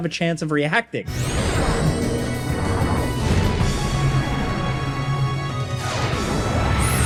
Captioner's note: attack whooshing; dynamic music